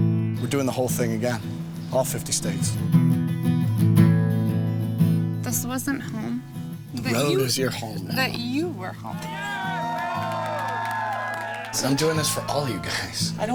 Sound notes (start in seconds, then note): 0.0 guitar playing; 9.1 cheering